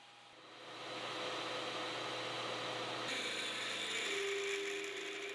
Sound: machine whirling

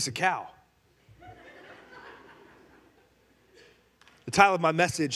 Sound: congregation laughing

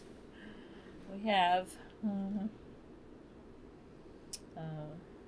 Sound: laughs

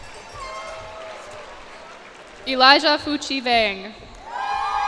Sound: cheers and applause

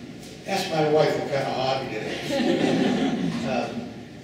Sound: laughing

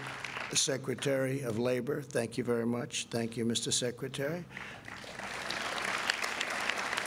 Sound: applause

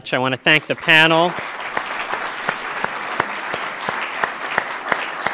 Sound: applause

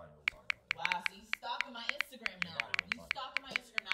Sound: phone typing

